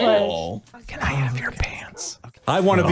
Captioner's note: whispering